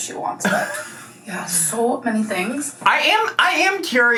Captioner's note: laughs